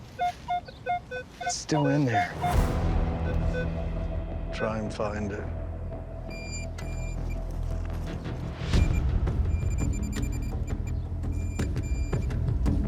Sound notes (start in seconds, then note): 2.3 tense music playing; 6.3 detector beeping; 9.4 rapid beeping